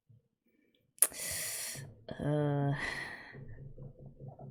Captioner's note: sharp intake of breath